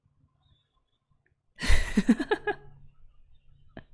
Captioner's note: laughs